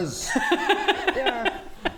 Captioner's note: judgemental laughter